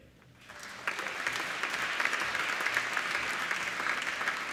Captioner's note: applauding